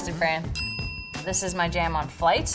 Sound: ding

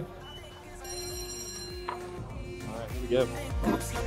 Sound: bell rings

